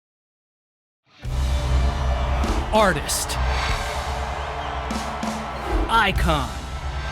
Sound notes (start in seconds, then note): 1.2 rock music playing; 3.9 crowd cheering